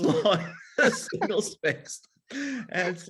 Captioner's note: laughs